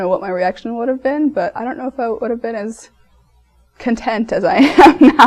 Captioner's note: laughs